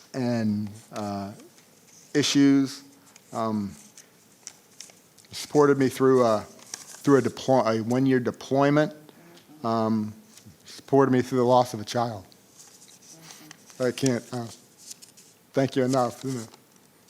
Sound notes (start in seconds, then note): none